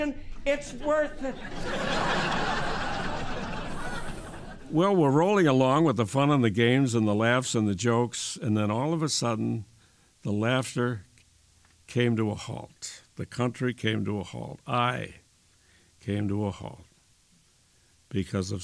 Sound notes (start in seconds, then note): 4.0 laughter